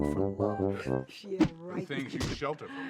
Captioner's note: speaking foreign language